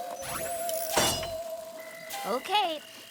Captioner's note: warbling; tinkling